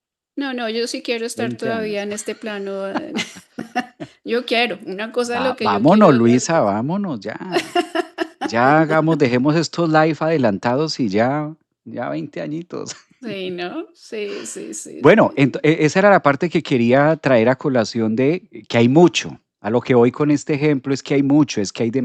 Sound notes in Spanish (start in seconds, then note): 3.4 risas